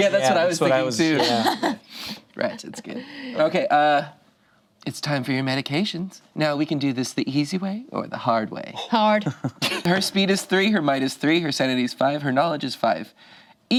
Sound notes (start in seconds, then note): 1.2 laughs